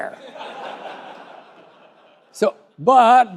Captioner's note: laughter